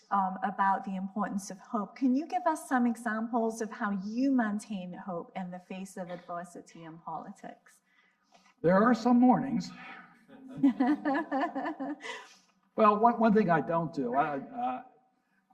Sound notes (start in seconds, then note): 10.3 laughs; 10.4 audience laughing